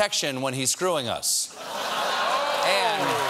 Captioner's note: laughter